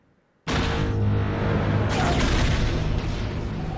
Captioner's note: seismic charge sound, again